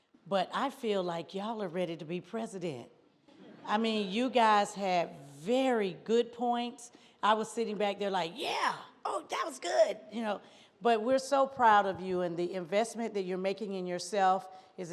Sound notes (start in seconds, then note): 3.4 audience laughs